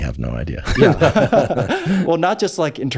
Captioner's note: Andrew laughs; laughs